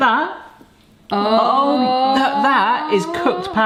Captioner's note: everyone cheering